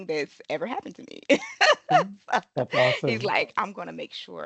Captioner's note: lauging